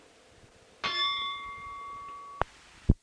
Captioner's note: bell Sound